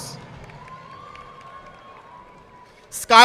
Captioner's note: audience clapping